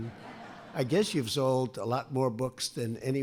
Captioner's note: laughter